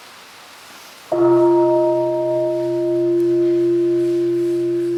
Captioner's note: bell ringing